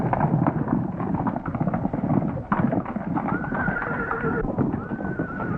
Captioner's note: horses galloping and neighing